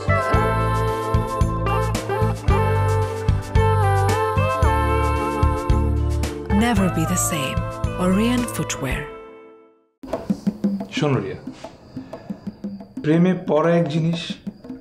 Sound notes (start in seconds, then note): none